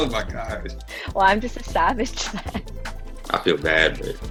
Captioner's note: laughs